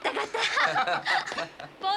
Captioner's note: laughter